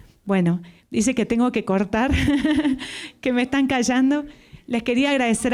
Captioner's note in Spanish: Risas